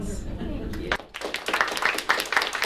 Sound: applause

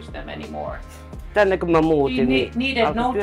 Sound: speaking in a foreign language

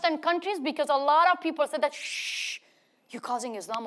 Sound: Masih shushes

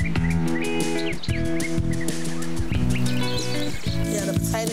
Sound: birds chirping; upbeat music

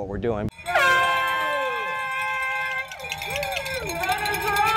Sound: horn starts race

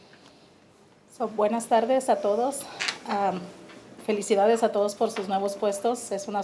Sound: speaking in foreign language

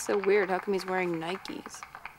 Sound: applause dies down

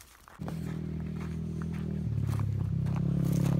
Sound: motorbike roars

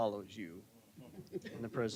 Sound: laughter

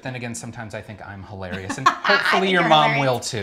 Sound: laughs

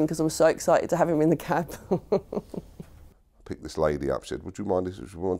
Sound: laughs

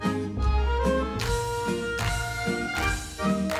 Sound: dancers clap; ukrainian folk music

